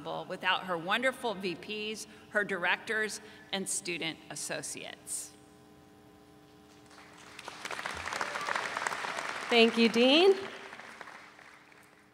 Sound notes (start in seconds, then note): 7.4 audience cheering